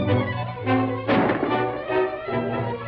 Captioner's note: gunshot